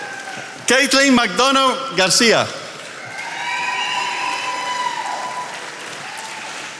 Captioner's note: attendees applauding